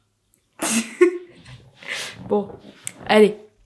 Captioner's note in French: Rires